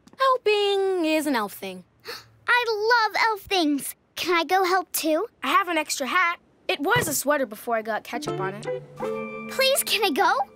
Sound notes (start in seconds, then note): 2.0 gasps